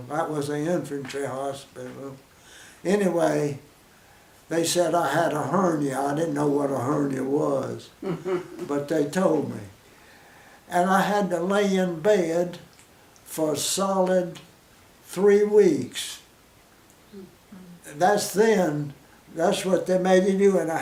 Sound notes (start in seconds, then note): 8.0 woman chuckles; 17.0 pause